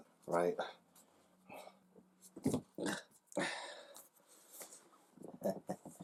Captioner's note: grunting